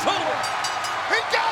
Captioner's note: bell chimes